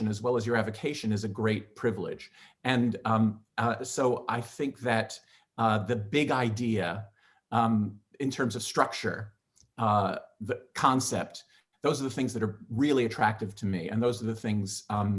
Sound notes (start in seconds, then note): none